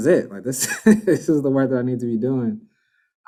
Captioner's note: laughs